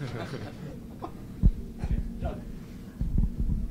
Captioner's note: laughter